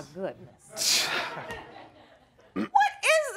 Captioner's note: scoffs